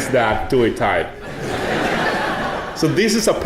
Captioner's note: audience laughing